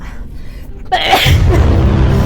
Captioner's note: sneezes